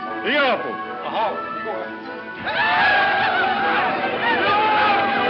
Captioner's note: Indians yell